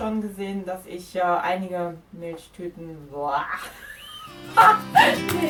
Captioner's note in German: lachen